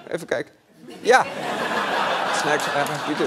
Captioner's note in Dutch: gelach